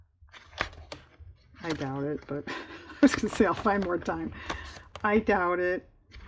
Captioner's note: laughs